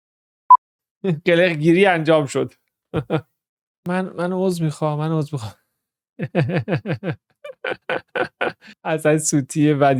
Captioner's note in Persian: خنده